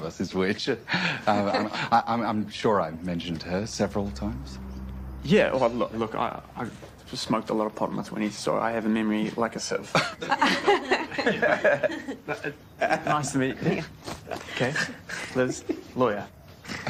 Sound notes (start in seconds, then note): 9.6 others laugh